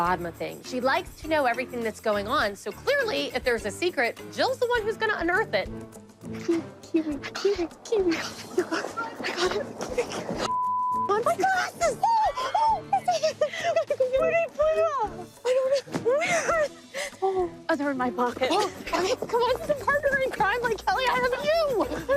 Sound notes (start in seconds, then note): 11.2 giggling; 11.3 shrieks